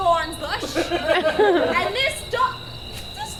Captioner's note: audience laughs